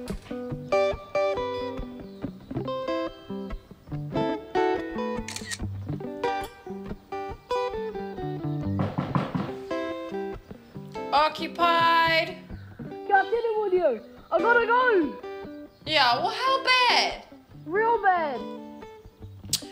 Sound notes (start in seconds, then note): 5.2 camera click; 8.7 door knock